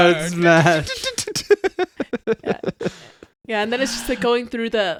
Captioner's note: laughing